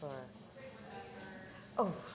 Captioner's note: murmuring